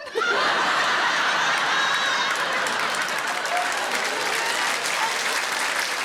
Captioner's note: audience laughing; audience clapping